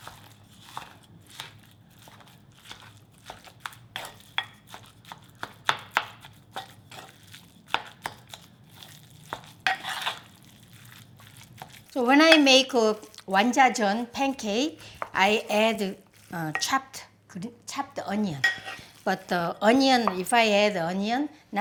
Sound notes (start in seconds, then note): 3.7 spoon thudding